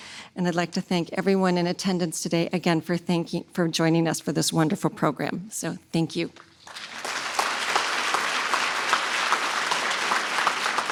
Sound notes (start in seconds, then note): 6.6 audience applauds